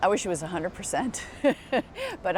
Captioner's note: laughter